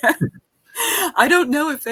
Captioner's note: laughing